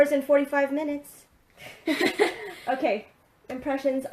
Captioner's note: laughing